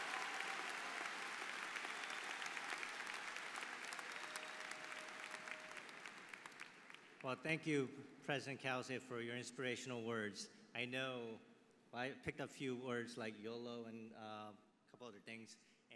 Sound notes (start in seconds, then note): 5.0 applause